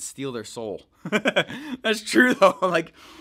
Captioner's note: laughing